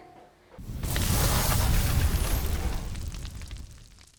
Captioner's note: burning sound